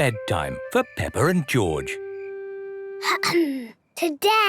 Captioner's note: clears throat